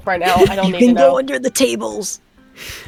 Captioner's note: laughs